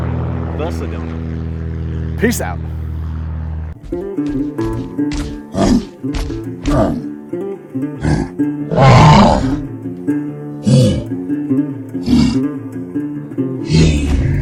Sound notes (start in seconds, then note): 5.5 grunting; 8.6 roaring